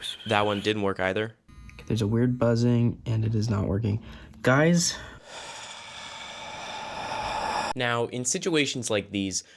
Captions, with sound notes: That one didn't work either. There's. A weird buzzing and it is not working. *Agressive Sighing* Now, in situations like these,